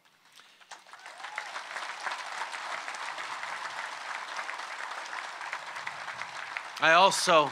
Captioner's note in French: Applaudissements